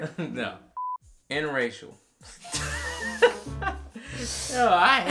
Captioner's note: laughing